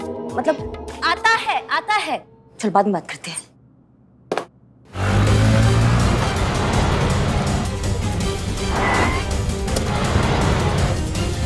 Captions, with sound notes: I will be there. I'll talk to you later. [bike revving] [accelerates]